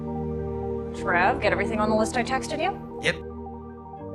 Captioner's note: voiceover